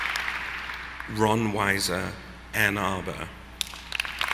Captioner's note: applause